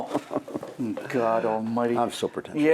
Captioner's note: laughing